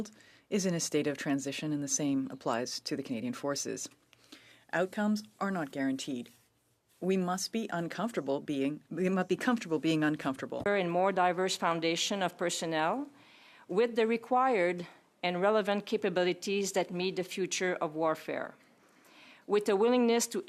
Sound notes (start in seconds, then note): 2.6 speaking French